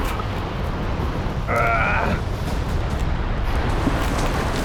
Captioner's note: grunts